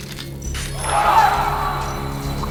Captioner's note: screams